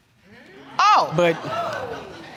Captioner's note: audience exclaiming